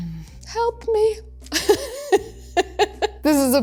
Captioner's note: laughs